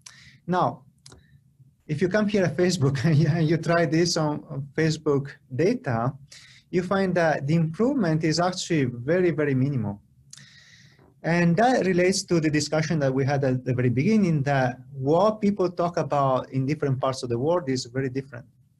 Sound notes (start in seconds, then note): 3.0 laughter